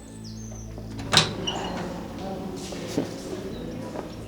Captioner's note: footsteps; door clicks open